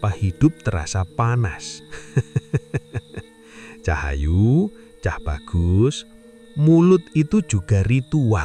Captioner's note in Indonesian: tertawa